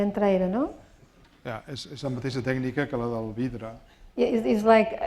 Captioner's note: spanish; speaking spanish